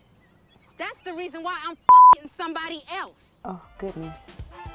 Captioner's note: beep